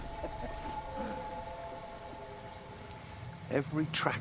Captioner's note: chuckling